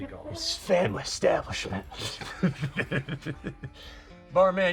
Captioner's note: both laughing